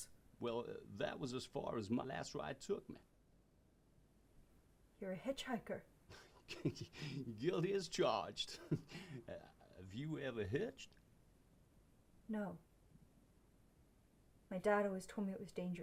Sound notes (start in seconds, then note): 6.1 chuckles; 6.1 snickers